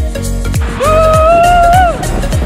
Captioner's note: cheers